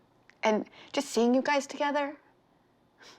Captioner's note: none